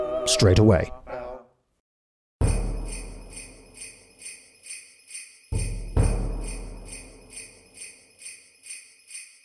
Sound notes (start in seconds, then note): 2.4 christmas bells ring